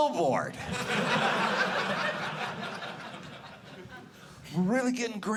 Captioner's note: audience laughing